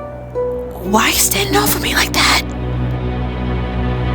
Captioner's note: whispering; music building